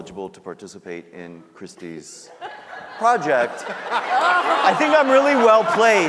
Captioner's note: audience laughing